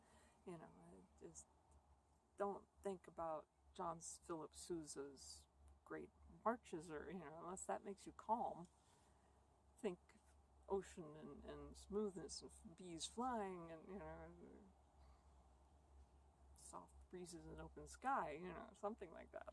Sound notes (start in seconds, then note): none